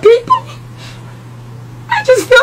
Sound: sniffles

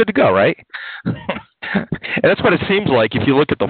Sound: laughs

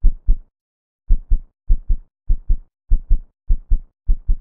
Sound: heartbeat intensifies

